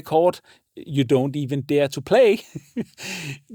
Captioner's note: giggles